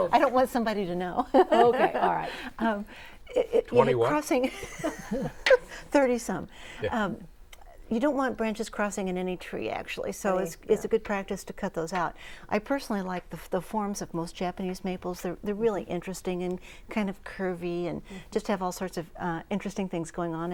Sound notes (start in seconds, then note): 1.4 laughing